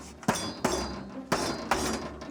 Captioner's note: banging metal